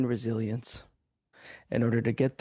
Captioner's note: speaking French